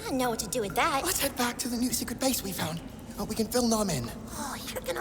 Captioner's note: whispering